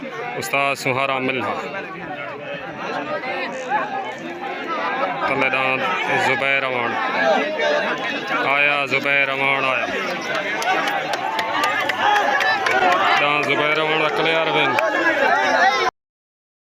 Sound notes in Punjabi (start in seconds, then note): 11.1 ਤਾੜੀਆਂ